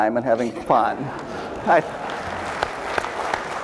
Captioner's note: applause